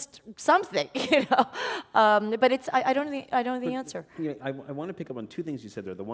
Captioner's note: chuckle